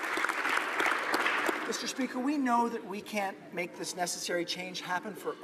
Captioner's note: applause